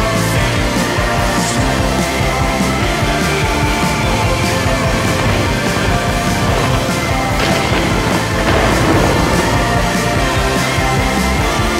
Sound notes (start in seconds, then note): 0.1 energetic music; 5.6 bike tires grinding on rocks; 8.8 energetic music